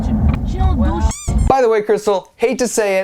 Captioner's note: squeaky toy sound effect